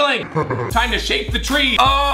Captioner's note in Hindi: धीमी हँसी